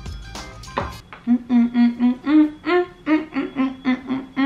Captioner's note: happy humming